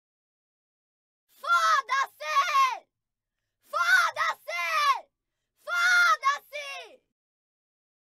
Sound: sound of female screaming

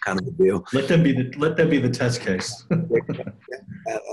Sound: chuckles

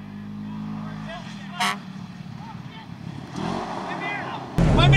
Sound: car horn blowing; engine revving

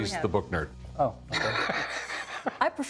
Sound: laughs

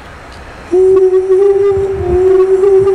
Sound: chanting

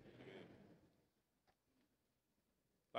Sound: crowd

